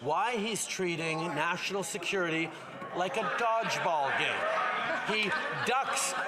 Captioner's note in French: voix de l'interprète